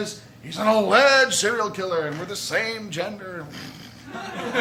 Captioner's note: scoffs; laughter